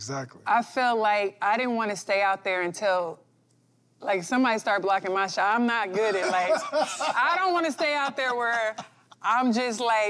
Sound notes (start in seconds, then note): 6.0 laughter